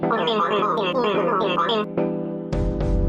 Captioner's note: vocoder sounds